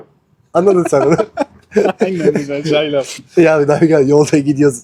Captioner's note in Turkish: kahkaha